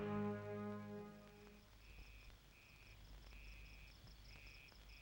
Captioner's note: insects chirping